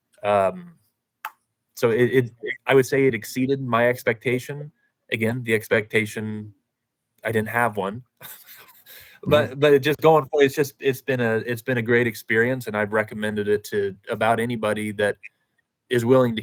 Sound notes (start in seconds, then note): 8.2 laughs